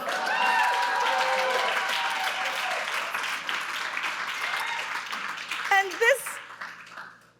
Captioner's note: audience cheering; audience clapping